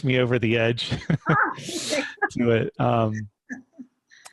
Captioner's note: laughing